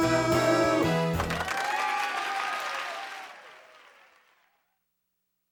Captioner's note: applause and cheering